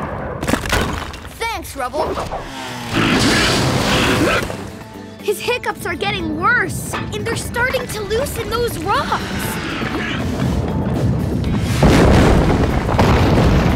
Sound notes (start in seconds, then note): 2.6 hiccuping; 9.4 hiccuping, rumbling